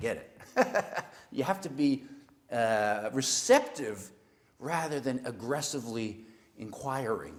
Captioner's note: laugh